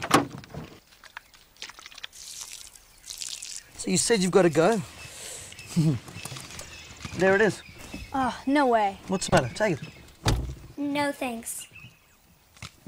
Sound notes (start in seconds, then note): 5.6 Chuckles